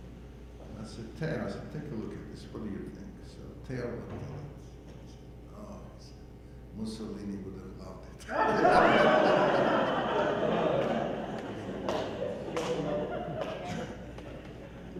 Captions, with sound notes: be around and I said, "Theo, take a look at this, what do you think?" So Theo looked at it and he said, "Oh Mussolini would have loved it". (audience laughing)